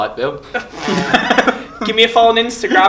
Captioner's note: laughing